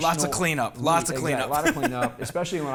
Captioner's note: laughs